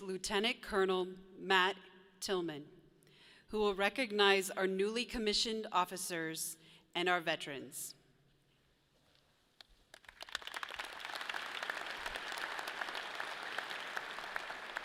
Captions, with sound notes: Lieutenant Colonel Matt Tillman, who will recognize our newly commissioned officers and our Veterans. (audience applauds)